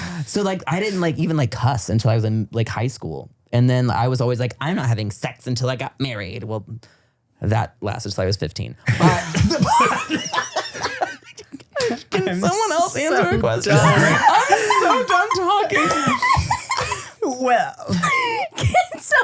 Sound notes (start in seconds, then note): 8.9 everybody laughs; 14.0 everybody laughing; 18.7 laughing